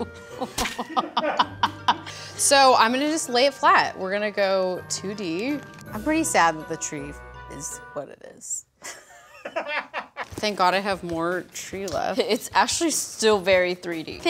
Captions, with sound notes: (laughing) So I'm gonna just lay it flat. We're gonna go 2D. I'm pretty sad that the tree is what it is. (off camera laughing) Thank God I have more tree left. - It's actually still very 3D.